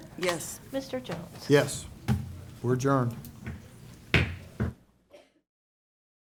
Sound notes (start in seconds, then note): 4.2 strikes gavel